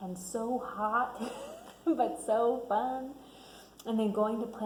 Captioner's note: laughs